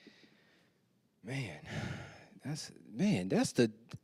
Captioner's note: sighs